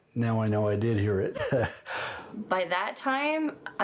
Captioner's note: laughs